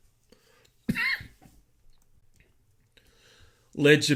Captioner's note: coughs